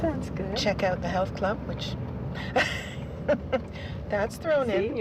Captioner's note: laughs